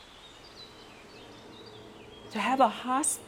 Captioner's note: birds chirping